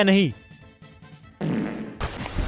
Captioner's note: farts